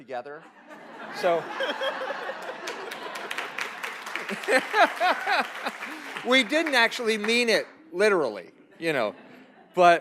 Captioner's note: laughs